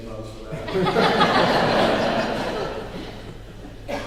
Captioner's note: laughing